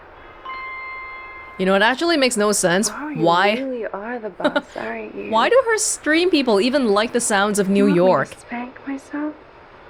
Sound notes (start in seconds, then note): 4.4 chuckles